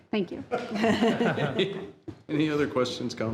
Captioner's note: board laughing